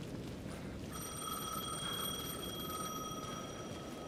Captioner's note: phone ringing